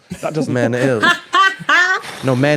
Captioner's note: cackles